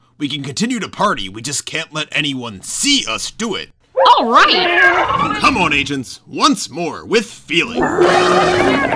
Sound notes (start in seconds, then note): 3.9 excited animal sounds; 7.8 animal approval sounds